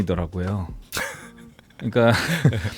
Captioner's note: laughs